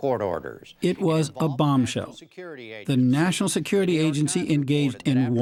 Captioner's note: voice-over